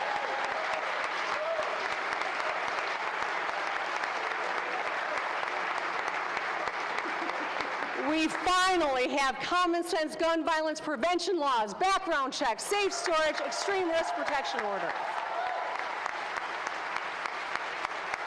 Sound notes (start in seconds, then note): 3.3 applause